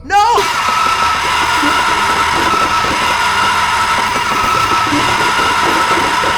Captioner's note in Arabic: صراخ شرير; موسيقى مشؤومة